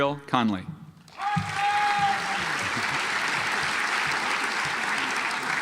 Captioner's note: audience applauds